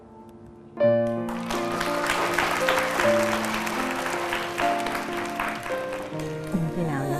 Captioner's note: clapping